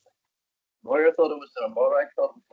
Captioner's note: audio distorts 10.44